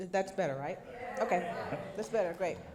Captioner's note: crowd murmuring